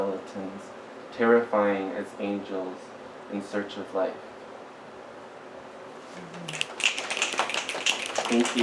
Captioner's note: snaps and applause